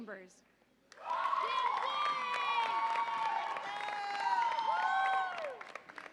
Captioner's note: audience applauds and cheers